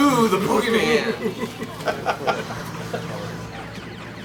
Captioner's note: laughing